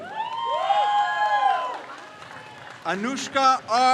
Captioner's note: crowd cheers